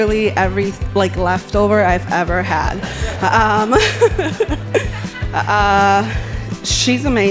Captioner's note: laughing